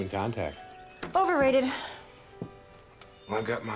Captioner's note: sighing